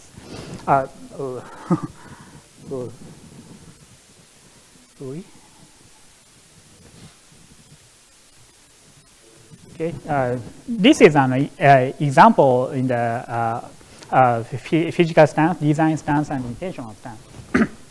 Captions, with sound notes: (laughs) Okay. This is an example in the physical stance, design stance, and intentional stance.